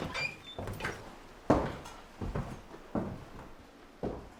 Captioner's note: footsteps